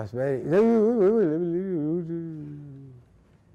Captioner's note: grumbling